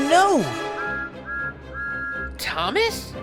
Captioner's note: thomas whistles